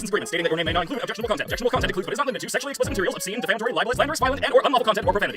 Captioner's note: none